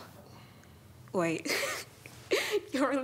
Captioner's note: laughs